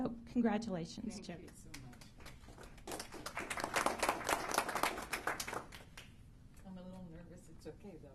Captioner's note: applause